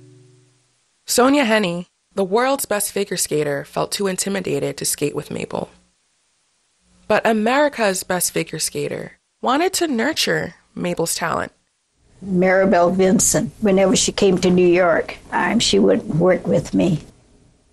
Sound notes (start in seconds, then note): 12.0 soundbite of archived recording